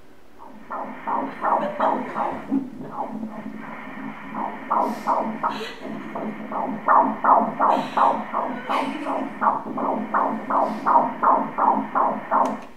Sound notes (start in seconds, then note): 0.2 heart sound; 5.9 emotion cry